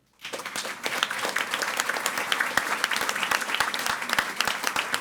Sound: audience applauding

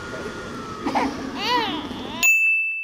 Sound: crying

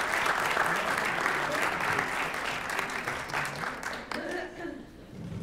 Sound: applause

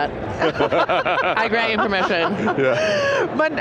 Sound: all laughing

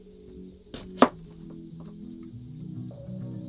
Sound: gentle electronic music; cutting

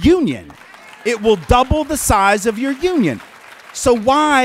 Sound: clapping

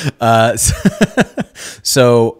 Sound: laughing

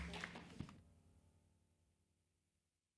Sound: applause

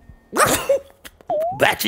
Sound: achoo

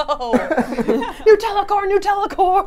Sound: everyone laughs

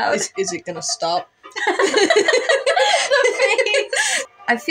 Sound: both Laugh

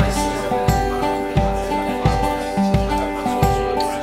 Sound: chattering; gentle music

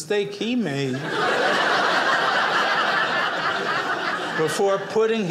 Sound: audience laughing

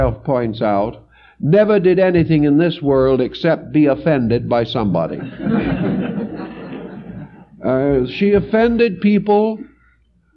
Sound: laugh

